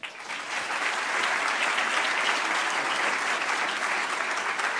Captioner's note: applause